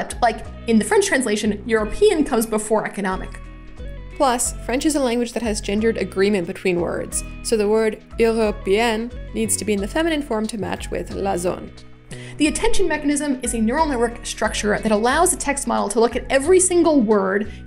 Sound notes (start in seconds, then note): 8.2 french; 11.6 french